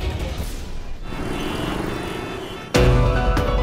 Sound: traffic noises; tense music

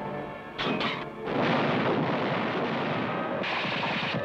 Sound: guns firing

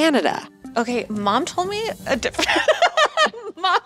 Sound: laughs

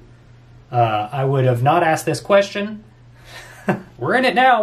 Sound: laughs

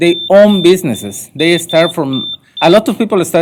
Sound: beeping

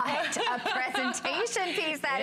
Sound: laughter

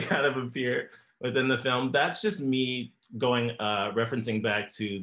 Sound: laughs

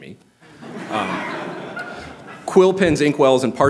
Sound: laughter

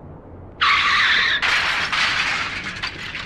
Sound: car crash is heard over phone

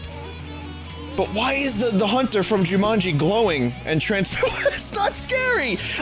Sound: laughing

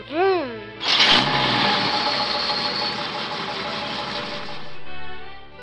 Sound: truck sound effect

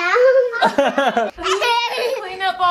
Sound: giggle

